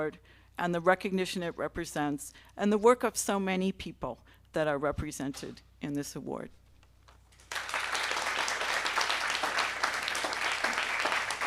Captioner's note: applause